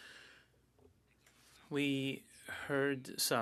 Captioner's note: speaking in French